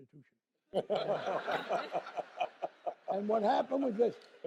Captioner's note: laughter